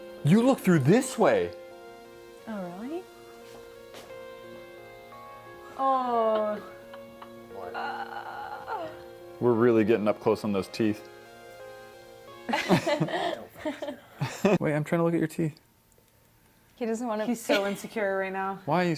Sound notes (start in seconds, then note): 6.2 upset noises; 12.5 quiet group laughter